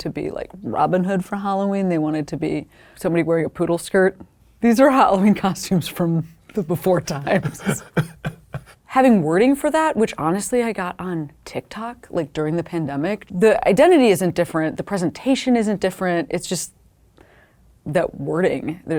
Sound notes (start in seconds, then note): 7.0 people laughing